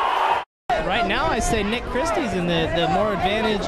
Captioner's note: crowd cheering